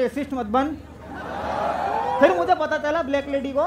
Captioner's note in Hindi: चियरिंग